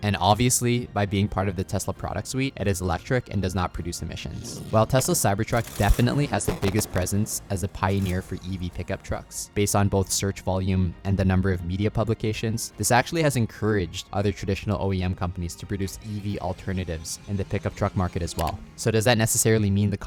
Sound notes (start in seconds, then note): 5.5 vehicle revving; 17.4 vehicle revving; 18.4 cursor clicking